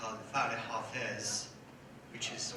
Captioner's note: speaks in foreign language